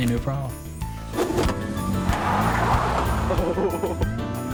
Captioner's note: tire screeches; screen whooshes; videographer laughs